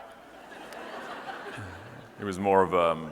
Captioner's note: audience laughing